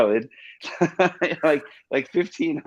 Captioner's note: Jet laughs